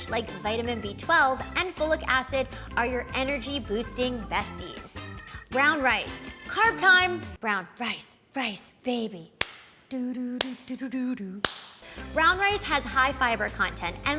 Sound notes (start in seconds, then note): 9.1 claps; 9.9 hums " "